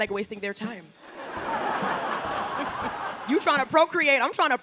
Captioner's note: audience laughing